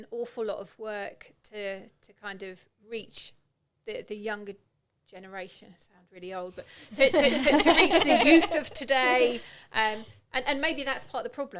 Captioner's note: laughing